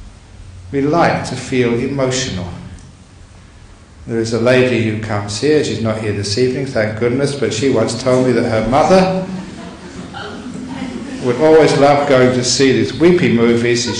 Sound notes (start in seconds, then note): 8.8 audience laughter